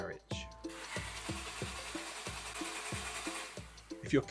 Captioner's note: sound of car failing to start